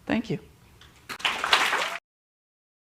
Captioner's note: applause